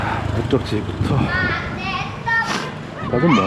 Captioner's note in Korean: 아이들 소리